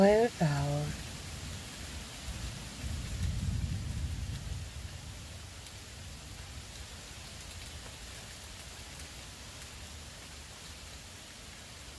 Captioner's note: rain Pouring